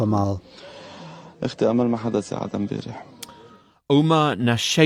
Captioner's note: speaking Arabic